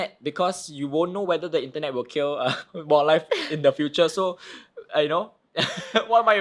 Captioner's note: chuckle